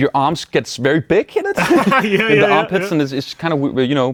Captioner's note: laughs